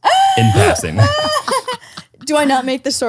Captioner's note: laughs